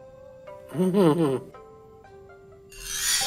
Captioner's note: chortling